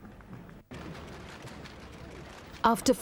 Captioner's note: camera shutters clicking